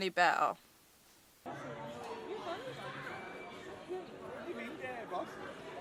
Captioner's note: people talking background